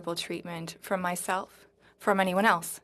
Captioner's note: speaking French